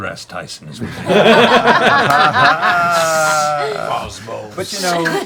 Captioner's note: laughter